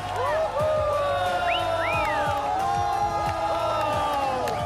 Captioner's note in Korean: 콘서트장에 온 듯한 환호